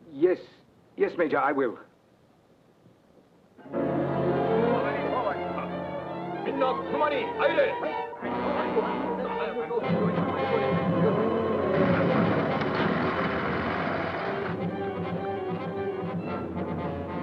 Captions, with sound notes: - Yes. Yes, major, I will. (chaotic orchestral music) (soldiers speaking Japanese) (daunting orchestral music)